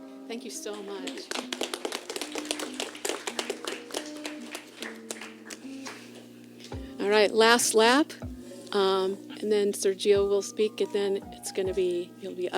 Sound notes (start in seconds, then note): 0.9 applause